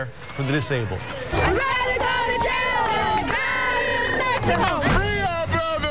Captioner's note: chanting